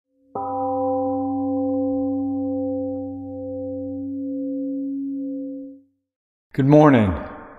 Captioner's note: temple gong rings and fades